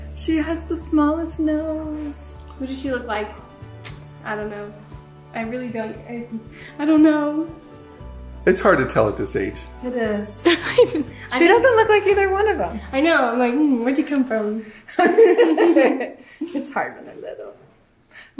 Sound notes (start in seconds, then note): 10.4 laughs; 14.9 laugh